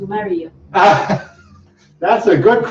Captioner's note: laughs